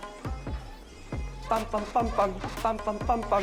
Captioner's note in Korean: 삐걱삐걱